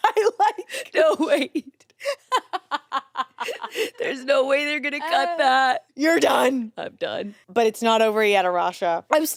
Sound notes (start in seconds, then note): 1.8 laughs